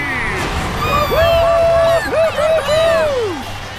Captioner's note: cheering